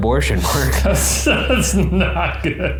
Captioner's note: laughing